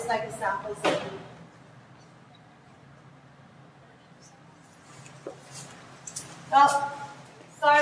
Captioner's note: FBI person whispering